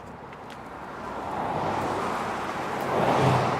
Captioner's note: street noises